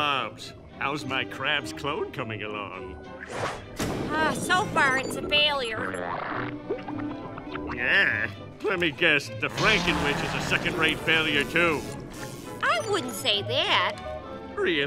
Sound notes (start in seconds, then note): none